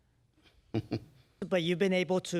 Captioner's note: laughs